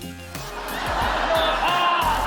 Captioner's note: laughter